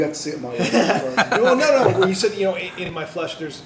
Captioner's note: laughter